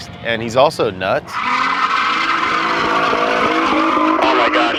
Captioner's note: tires screeching